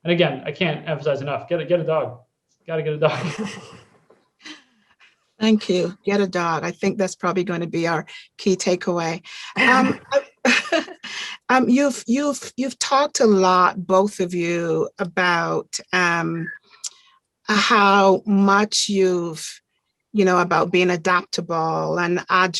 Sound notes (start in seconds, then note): 3.0 all chuckling; 9.5 chuckling